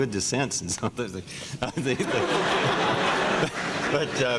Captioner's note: laughter